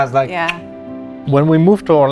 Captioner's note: clicks tongue